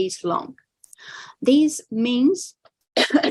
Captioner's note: coughs